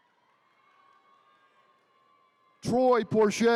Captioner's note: attendees cheering